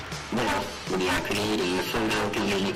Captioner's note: voiceover